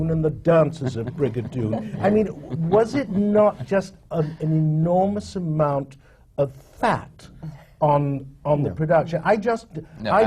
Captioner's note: laughter from the panel